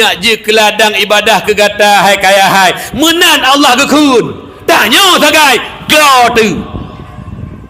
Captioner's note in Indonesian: berteriak